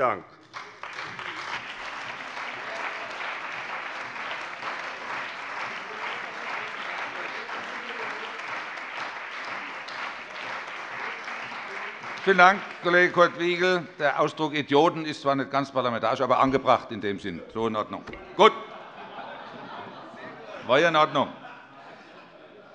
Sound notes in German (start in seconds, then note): 3.0 Beifall bei der CDU und dem BÜNDNIS 90/DIE GRÜNEN